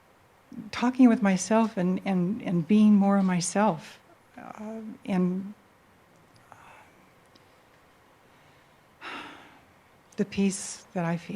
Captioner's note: she sighs